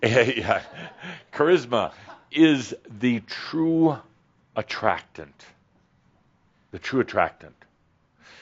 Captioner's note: chuckling